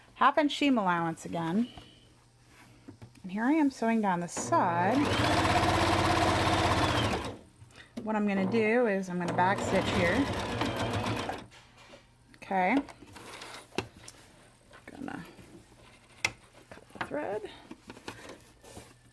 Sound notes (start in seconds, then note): 4.4 sewing machine running